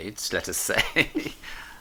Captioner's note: chuckles